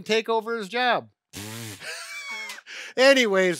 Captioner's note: blows raspberry; laughs